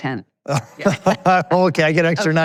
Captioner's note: laughing